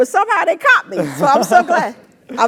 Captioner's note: laugh